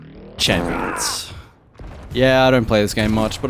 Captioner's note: fart sound